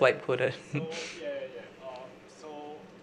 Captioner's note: laughs